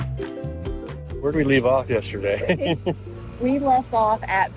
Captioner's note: chuckles